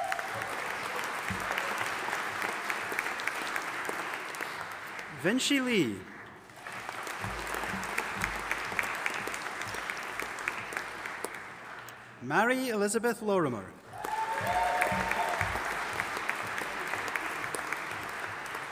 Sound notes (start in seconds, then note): 0.2 audience applauding and cheering; 7.1 audience applauding; 13.8 audience applauding and cheering